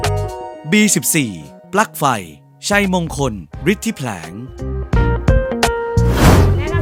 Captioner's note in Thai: เสียงบรรยาย